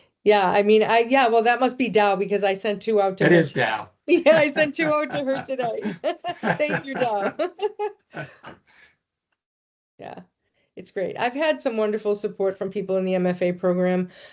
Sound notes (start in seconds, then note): 4.1 laughing